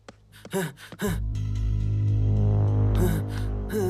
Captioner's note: Shiva panting